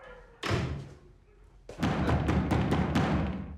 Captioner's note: muffled howls and barks; heavy knocks